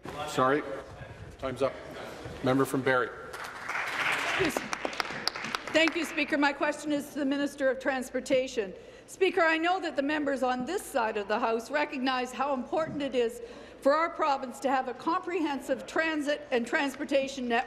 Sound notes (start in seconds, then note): 6.4 applause